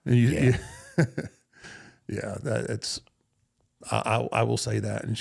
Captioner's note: Undertaker chuckles